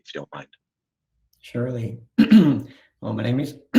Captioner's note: clears throat